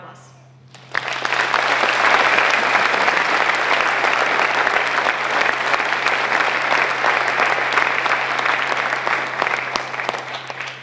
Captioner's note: applause